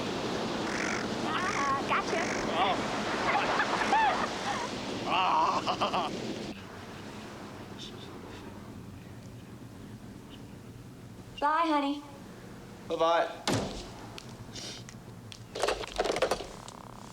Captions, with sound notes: - Aw, gotcha! (laughing) Bye, honey. - Bye bye.